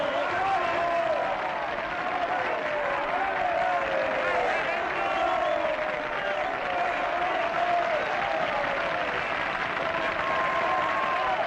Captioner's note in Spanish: Aplausos y ovaciones